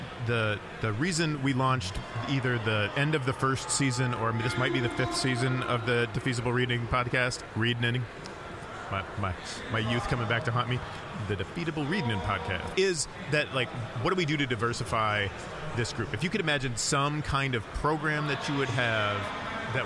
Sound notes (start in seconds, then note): 11.2 with lisp